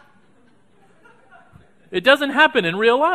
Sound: audience laughing

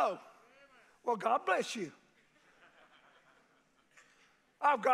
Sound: men chuckle

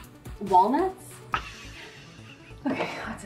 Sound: laughs

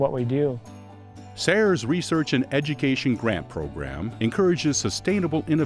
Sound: voiceover

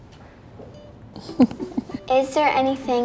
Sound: parent laughs quietly

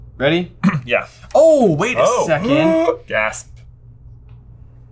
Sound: gasps

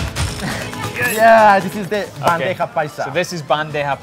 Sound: lively Latin music; laughs; claps

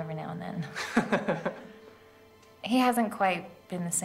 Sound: Thomas laughs

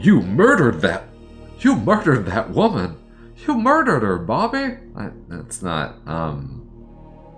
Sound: accidental Hank Hill voice

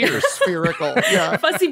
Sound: laughs

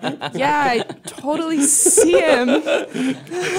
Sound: laughter

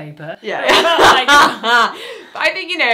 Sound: laughs

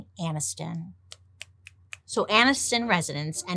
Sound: fingers clicking

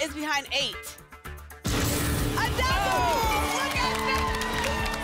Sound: applause and cheering

